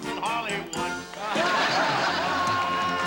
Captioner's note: laughter